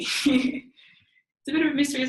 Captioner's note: laughs